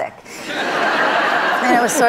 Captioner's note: audience laugh